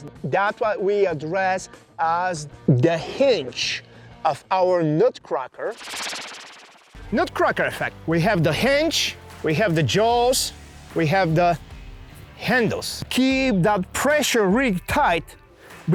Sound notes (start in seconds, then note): 5.7 graphic whooshes